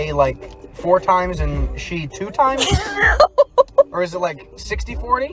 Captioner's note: laughs